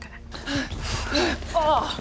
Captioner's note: unfit panting